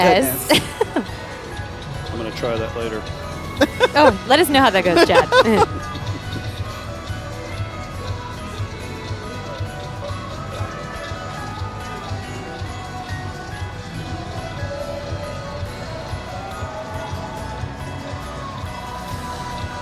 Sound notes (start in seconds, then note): 3.4 chuckling; 8.4 laughing; 10.0 holiday music